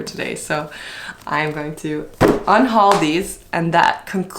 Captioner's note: books thud